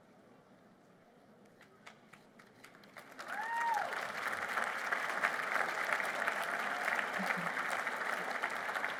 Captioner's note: applause